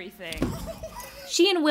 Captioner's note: pirates snickering